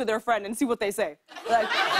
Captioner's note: laughter